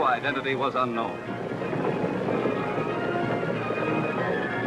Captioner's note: hooves thudding